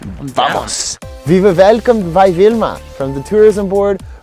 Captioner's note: in bad Austrian accent